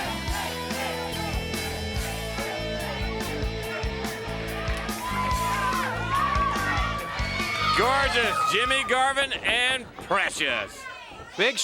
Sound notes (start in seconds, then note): 2.2 crowd cheering continues; 2.2 fun rock music continues